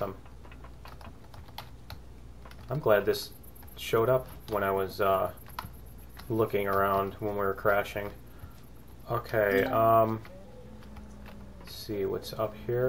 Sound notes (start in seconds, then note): 10.2 ding